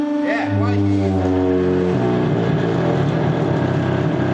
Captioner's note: metal groaning loudly